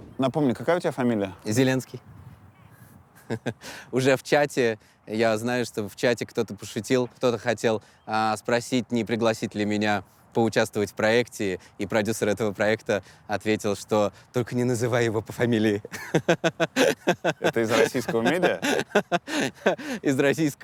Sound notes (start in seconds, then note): 3.1 chuckles; 15.8 laughs